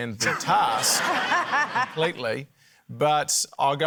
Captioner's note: laughter